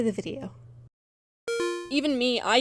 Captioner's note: beep-beep synth noise